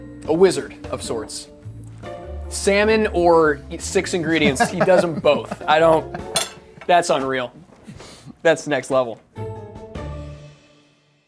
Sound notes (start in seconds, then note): 4.3 laughs